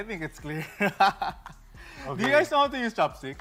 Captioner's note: laughs